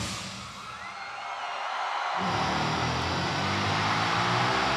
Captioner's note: audience cheering; dramatic music